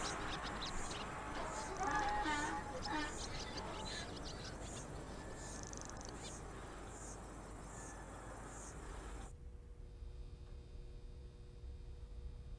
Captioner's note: bird cries